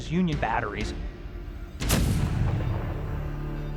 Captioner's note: cannon firing